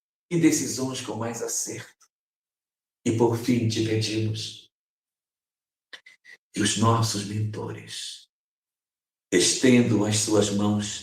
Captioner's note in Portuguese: limpando a garganta